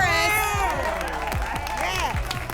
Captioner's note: applause and cheering